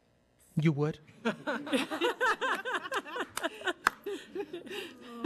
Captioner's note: women laughing